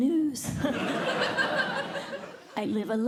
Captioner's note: laughter